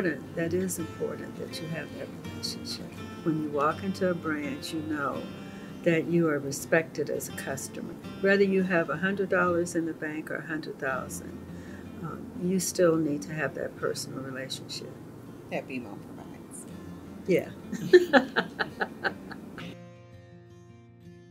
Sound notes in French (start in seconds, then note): 17.7 rires